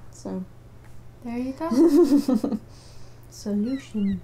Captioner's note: laughter